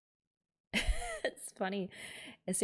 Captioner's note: laughs